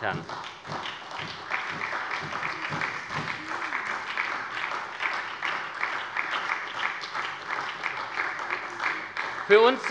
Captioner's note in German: Beifall bei der SPD